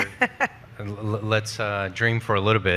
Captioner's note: laughing